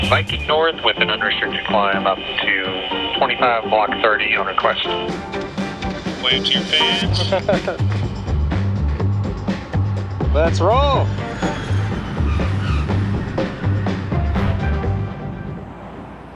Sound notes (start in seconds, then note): 6.8 laughs; 11.2 plane whistles and zooms; 11.2 upbeat music